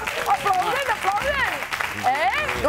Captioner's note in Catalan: aplaudiments